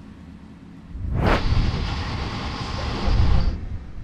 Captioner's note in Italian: treno che passa